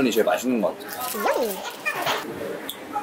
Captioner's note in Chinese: 嚼嚼